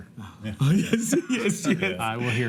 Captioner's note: sighs